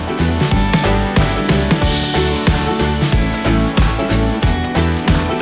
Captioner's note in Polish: Aplauz